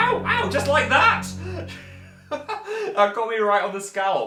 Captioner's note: laughs